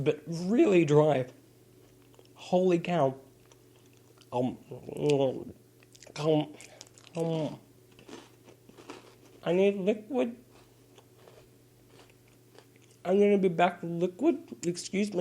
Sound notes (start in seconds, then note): 3.4 eating noises